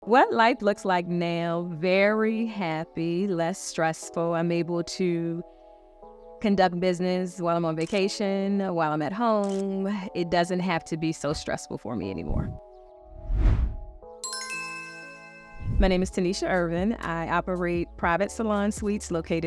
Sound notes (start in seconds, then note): 13.2 swooshes; 14.2 chiming